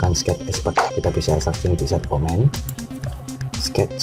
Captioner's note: click